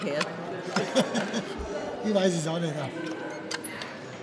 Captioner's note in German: lacht